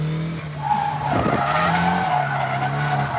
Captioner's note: tires screeching